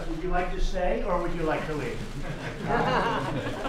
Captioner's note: laughter